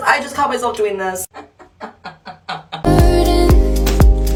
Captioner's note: throaty, in lowering notes